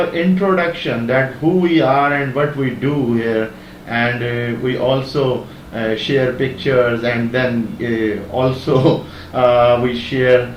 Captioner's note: laughing